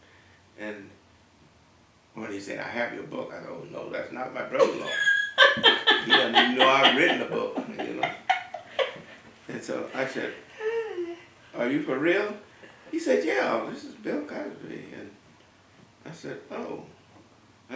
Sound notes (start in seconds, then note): 4.6 laugh